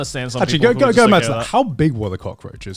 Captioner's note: stuttering